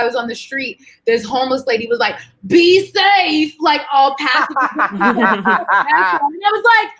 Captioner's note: murmurs